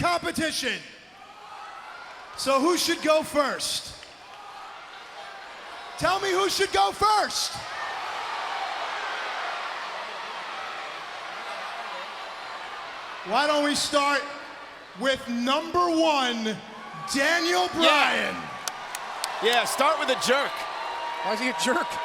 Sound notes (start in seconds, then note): 7.5 crowd cheering